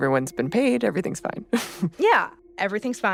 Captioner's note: chuckles